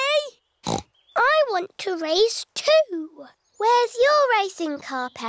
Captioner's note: snorts